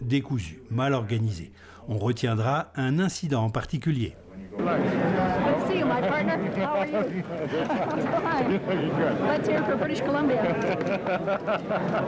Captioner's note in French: rires